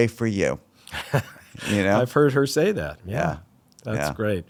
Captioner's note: laughs